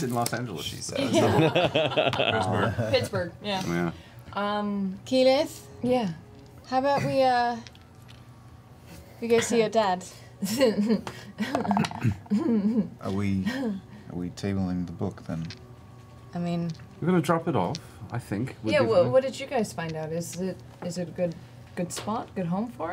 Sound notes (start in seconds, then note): 11.4 laughs nervously